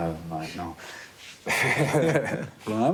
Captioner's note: laughing